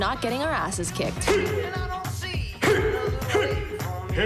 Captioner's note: grunting